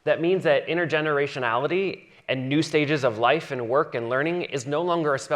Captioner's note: none